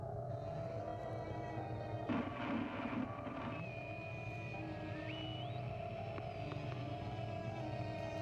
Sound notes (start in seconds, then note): 2.0 static; 3.2 whirring and whining